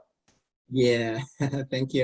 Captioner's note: laughs